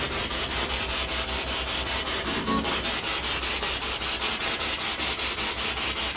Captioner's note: radio noise from the spirit box